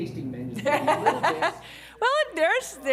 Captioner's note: laughter